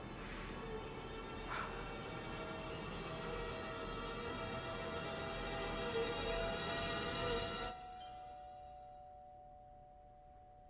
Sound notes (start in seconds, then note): 1.5 exhaling breath; 2.5 dramatic orchestral music; 7.6 doorbell ringing